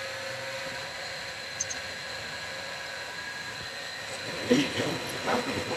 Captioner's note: mill Whirling